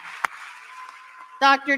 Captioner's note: applause